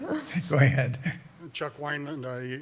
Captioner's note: laughter